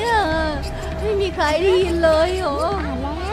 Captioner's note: Chirpchirp